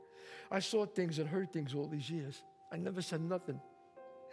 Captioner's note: none